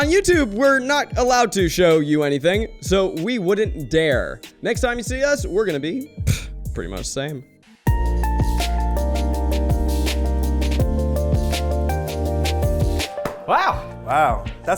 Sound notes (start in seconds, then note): 6.1 blowing through lips; 8.0 upbeat instrumental music